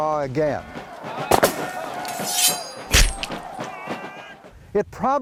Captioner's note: guns firing, swords clanking